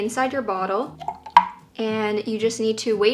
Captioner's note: tablet plops